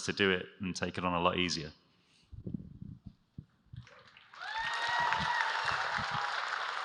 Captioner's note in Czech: Potlesk